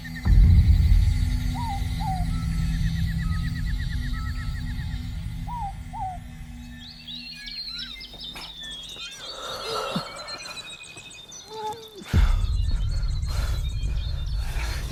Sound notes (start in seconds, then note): 0.3 mysterious music; 7.4 birds chirp